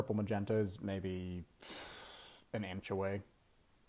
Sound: exhales thinking-ly

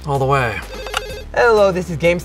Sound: phone rings

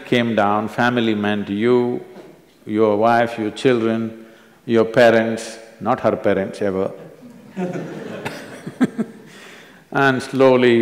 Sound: laughter

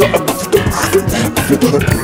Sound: Morshu beatboxes furiously; Morshu gasps for air

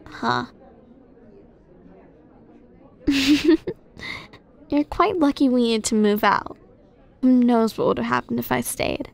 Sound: soft laugh

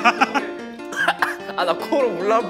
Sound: cough

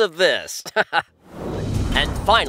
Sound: chuckles

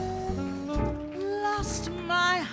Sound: audience applauds

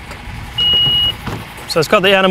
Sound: beep

